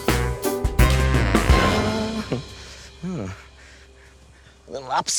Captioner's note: hums